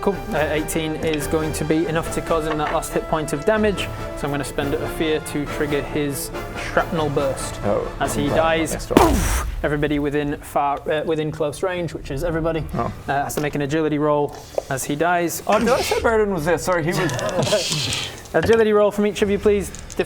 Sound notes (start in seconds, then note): 8.9 boof!